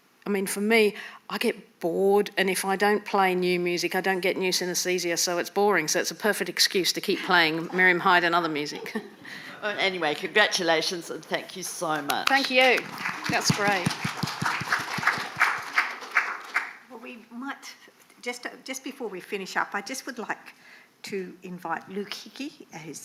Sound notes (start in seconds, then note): 12.0 clapping